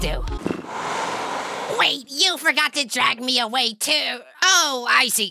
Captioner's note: dragging sound